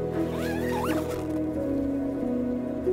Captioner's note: zipper closing; calm music